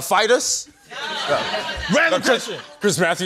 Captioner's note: laughter